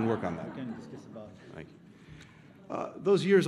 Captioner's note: laughter